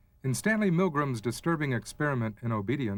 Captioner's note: voiceover